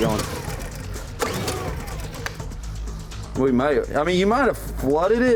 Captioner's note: generator revs up and down